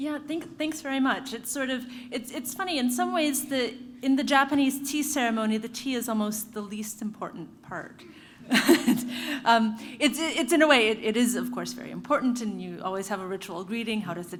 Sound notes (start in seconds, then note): 8.5 laugh